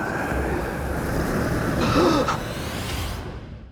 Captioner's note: gasps